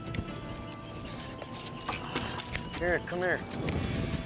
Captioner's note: squeaking